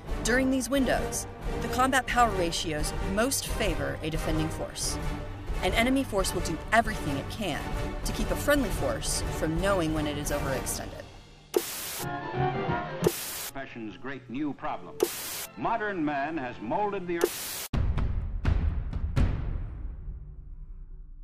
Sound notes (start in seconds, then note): 11.5 static buzzing; 11.8 jaunty music; 13.0 static buzzing; 15.0 static buzzing; 17.2 static buzzing; 17.7 dramatic music